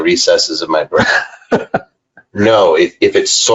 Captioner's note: laughing